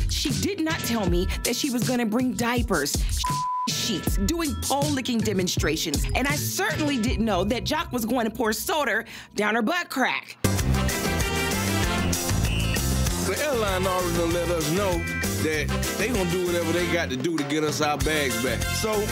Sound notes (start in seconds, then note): 3.2 beep; 10.4 upbeat music